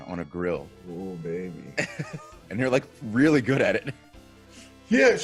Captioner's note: laugh